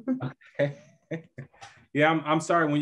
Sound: laughing

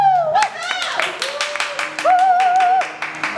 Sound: applause

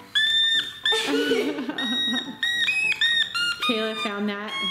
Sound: squeaking

